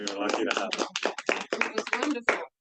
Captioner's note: attendees applauding